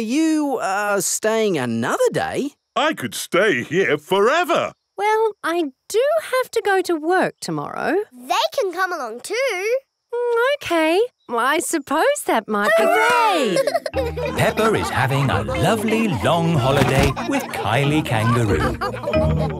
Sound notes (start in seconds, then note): 12.7 all laughing